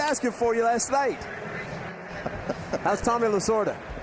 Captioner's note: laughter